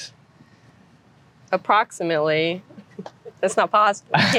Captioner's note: laughter